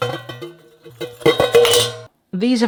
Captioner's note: rattly noises